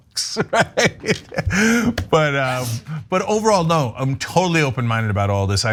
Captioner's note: laugh